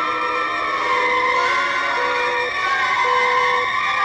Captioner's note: satellite beeping